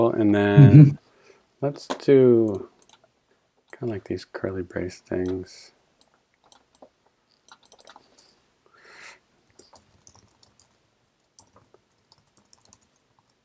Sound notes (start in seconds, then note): 7.4 mouse clicking